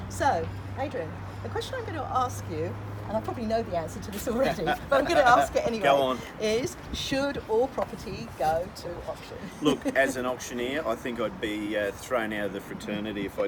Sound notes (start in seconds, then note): 4.4 laughs